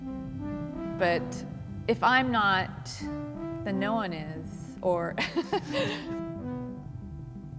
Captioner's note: laughs